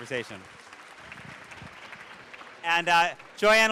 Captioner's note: audience claps